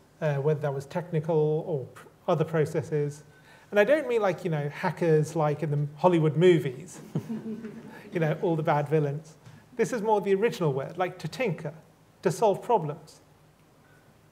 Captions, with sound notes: Whether that was technical or other processes. And I don't mean, like, you know, hackers like in Hollywood movies. - (LAUGHTER) - You know, all the bad villains. This is more the original word. Like, to tinker. To solve problems.